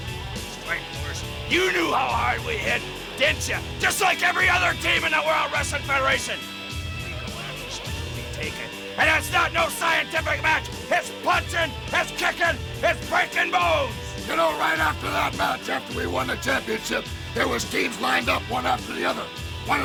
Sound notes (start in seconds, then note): 7.3 speaking quietly